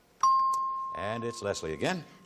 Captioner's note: ping